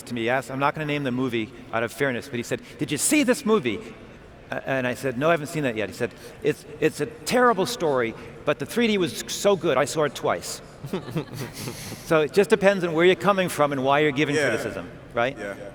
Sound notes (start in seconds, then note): 10.8 laughing